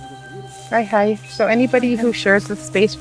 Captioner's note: speaking in Cree